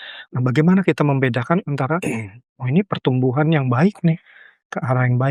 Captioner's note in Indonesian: berdehem